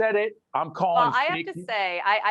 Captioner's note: laughing